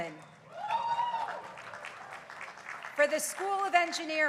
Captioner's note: crowd applauding